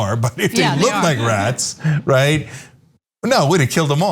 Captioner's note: laugh